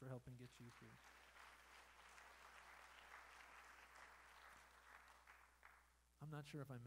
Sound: applause

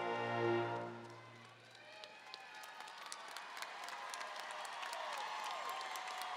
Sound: audience cheering and applauding

